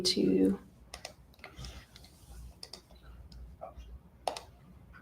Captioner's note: mouse clicking